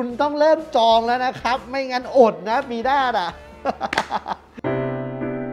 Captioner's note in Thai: หัวเราะ